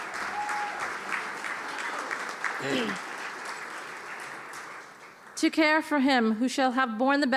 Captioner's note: applause